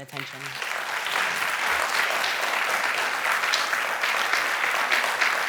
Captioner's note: applause